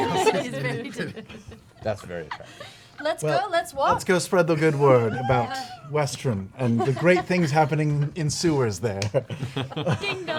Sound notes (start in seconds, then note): 0.0 laughter